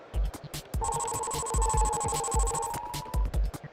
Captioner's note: electronic pulsing